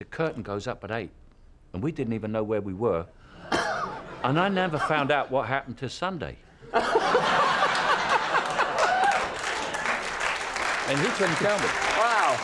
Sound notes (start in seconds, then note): 6.6 laugher, applause